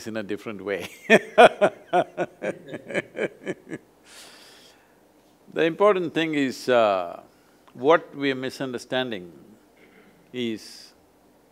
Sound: laughs

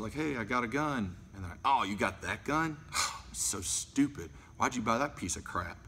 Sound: scoffs

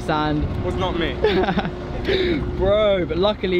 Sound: laughs

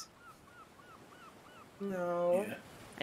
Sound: birds chirping

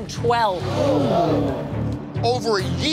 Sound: all gasping

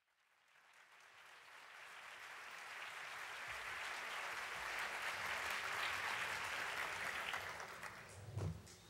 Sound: applause

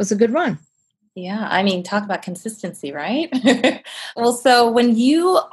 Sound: laughs

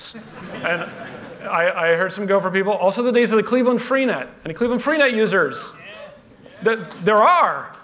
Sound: laughter

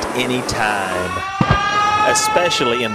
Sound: explosion

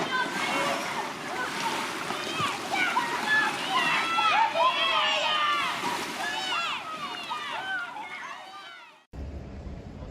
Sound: the sound of children playing water polo

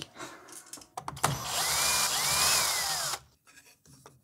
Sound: screwdriver noises

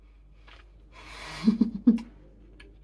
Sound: laughing

